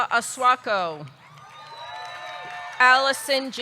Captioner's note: audience clapping; audience cheering